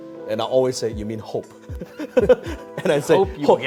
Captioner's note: laughs